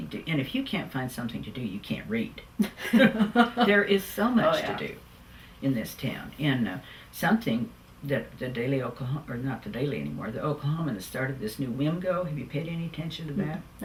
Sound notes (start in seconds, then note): 2.6 laughter